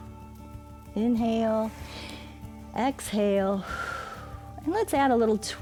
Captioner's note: exhales; inhales